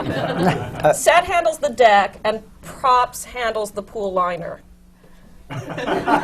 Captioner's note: laughter